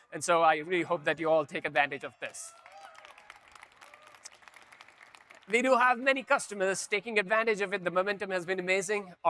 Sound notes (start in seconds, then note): 2.2 audience cheering; 2.3 audience applauding